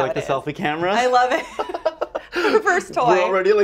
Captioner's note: both laugh